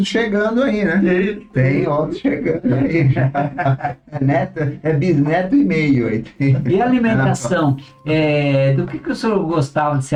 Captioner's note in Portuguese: risadas